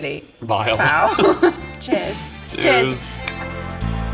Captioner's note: both chuckling; bright music